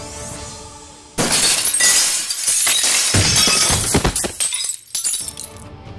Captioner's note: Glass breaking; Thuds on ground